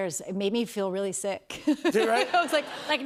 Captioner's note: laughter